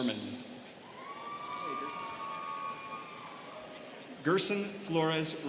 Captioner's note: students cheering